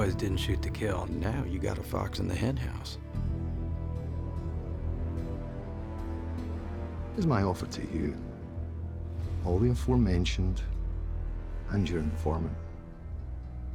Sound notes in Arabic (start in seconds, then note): 3.1 موسيقى متوترة; 7.1 لهجة اسكتلندية